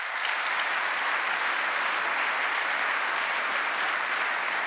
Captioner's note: applause